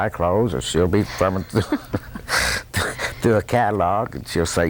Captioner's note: laughs